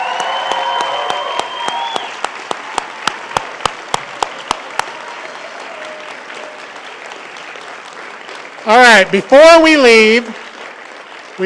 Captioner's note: cheering and applause